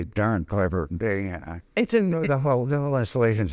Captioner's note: laughing